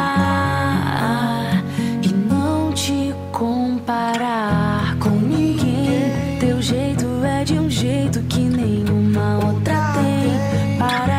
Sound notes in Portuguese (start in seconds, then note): none